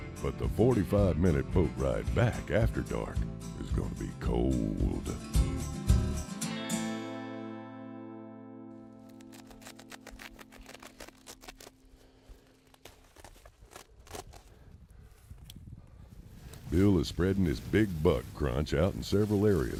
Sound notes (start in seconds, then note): 9.0 bag rustling